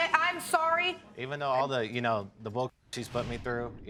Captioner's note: stammers